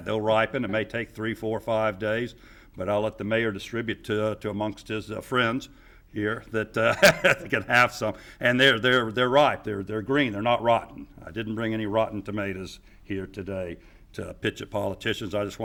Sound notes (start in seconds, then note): 6.9 laughing